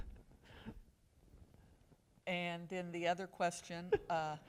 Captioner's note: laughter